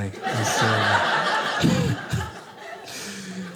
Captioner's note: audience laughing